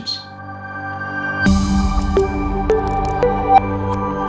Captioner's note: logo humming and chiming